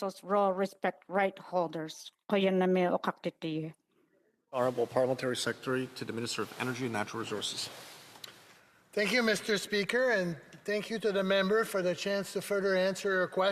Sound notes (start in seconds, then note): 6.8 speaking Indigenous Language